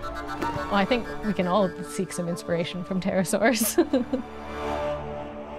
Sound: laughs

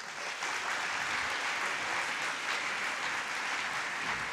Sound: audience applauds

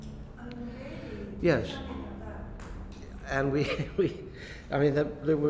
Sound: laughs

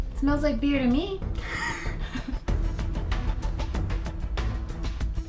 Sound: held in laughing

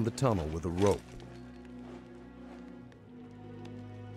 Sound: voiceover

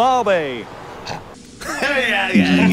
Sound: snorts

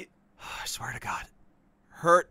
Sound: sigh

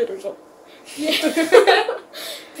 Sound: both laughing

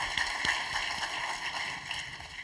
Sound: applause

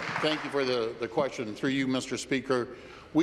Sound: applause

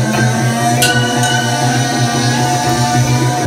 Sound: ding!

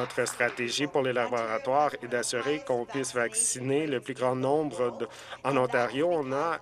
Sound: some Applause

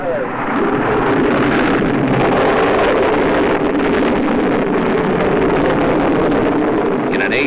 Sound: rocket engine thunders

